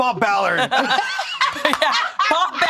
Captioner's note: all laughing